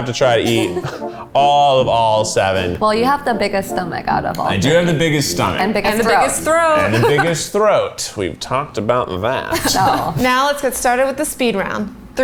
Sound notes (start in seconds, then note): 9.3 laugh